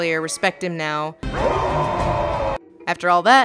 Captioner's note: orc cheering